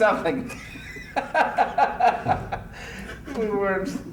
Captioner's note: laughter